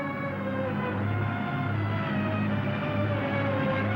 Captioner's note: plane droning